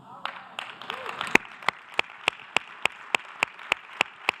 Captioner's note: applause